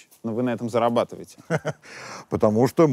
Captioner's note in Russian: смеется